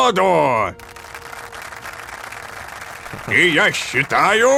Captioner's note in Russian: Аплодисменты